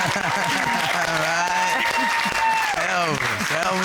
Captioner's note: laughter; laughs